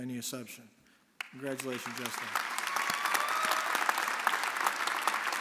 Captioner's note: audience applauding